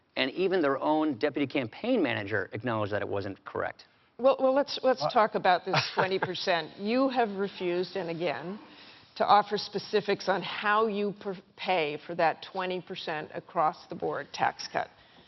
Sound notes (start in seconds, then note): 5.7 chuckles